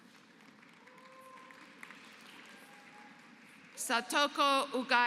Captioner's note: applause